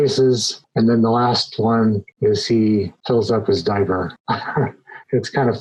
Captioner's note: chuckles